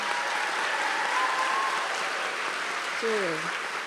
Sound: applause

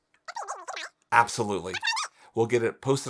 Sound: voice squeaking over phone

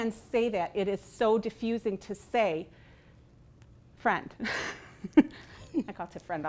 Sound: laughing

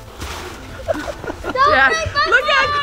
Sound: laughs

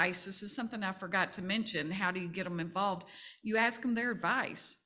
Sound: none

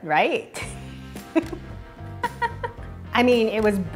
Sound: laughs

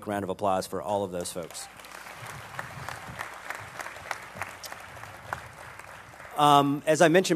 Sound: applause

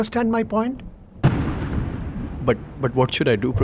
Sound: thunderclap

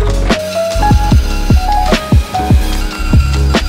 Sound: saw grinding

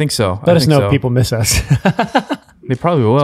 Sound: laughs

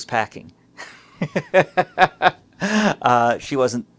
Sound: laughs aloud

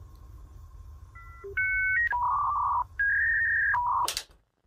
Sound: dial-up internet tones

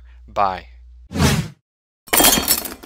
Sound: whoosh

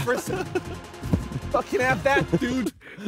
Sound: air swooshing; laughing

